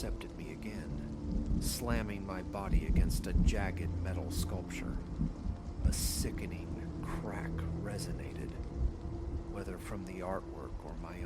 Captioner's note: crack